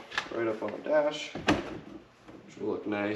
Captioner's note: mount thumping